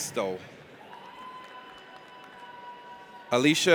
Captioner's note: audience applauds